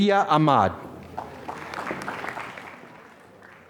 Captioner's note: applause